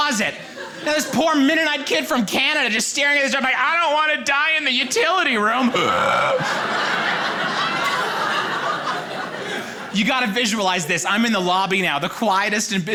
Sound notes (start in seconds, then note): 5.0 gasps loudly; 5.6 audience laughing